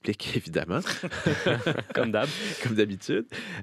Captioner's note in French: rires